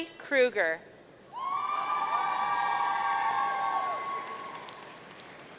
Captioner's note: audience cheering